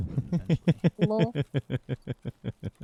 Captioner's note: laughs